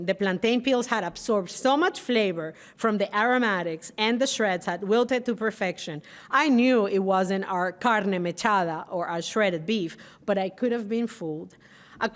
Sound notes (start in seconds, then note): 7.4 speaking Spanish